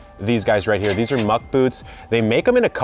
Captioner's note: cash register rings